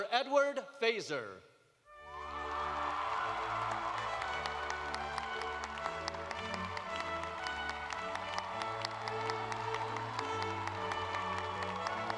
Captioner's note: cheers and applause